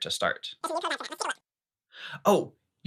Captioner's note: very fast speech